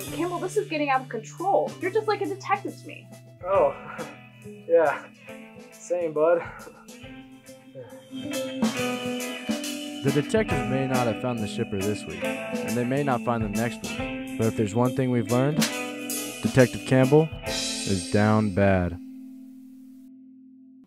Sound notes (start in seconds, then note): 15.5 slap